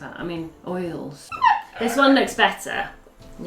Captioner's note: squeaking